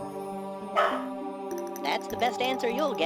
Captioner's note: Toto barking